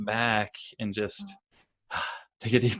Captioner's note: sighs